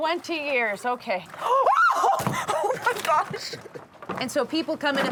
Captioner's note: shrieks